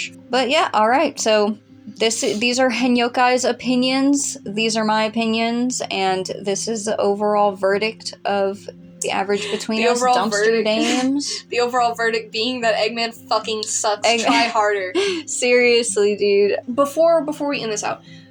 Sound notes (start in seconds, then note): 9.3 laughing; 14.0 laugh